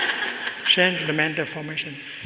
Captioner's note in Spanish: Risas